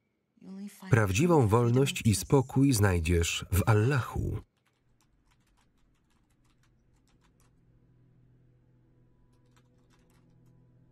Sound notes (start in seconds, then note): 4.5 keyboard clacking